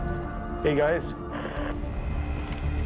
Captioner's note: walkie hisses